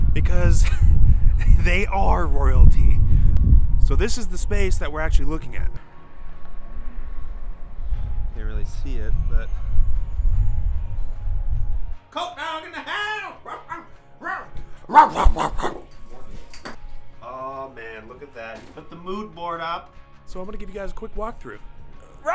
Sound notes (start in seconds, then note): 14.8 barking